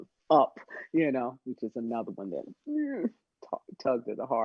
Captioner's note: winces